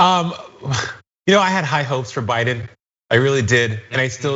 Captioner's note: laugh